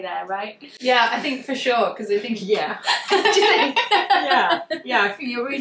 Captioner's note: laughs